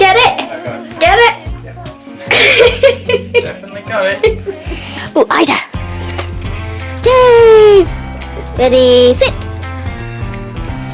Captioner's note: laughing; laughing